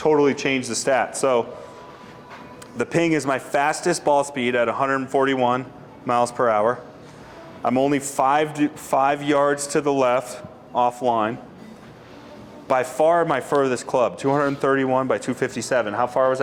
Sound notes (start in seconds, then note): none